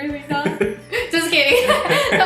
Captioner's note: laughs